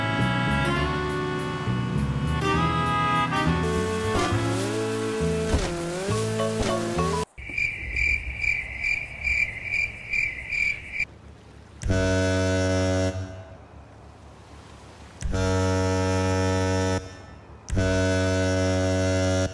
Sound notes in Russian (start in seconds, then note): 11.8 Гудок